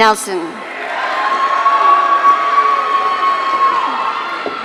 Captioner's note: audience cheering